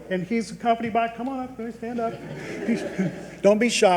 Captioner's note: audience chuckles